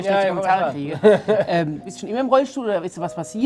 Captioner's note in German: Lachen